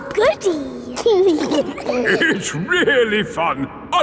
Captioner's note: giggling